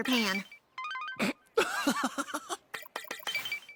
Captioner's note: laughter